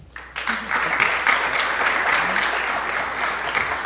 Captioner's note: applause